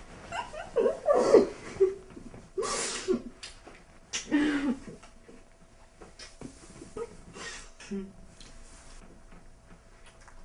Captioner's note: laughter, giggling, sounds of kissing